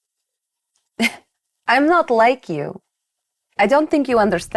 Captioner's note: scoffs